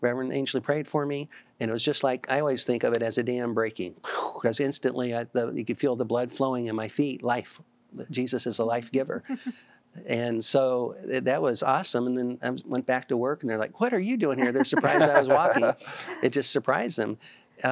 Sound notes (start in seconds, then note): 9.3 giggling; 14.4 laughter